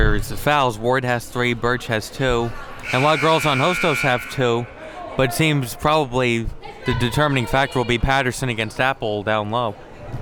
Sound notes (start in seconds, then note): 2.8 buzzer blares